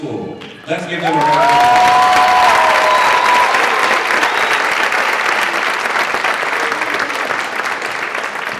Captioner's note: applause